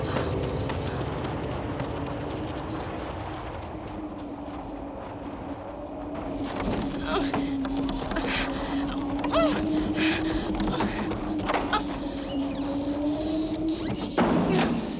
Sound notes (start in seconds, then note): 7.0 Cathy grunting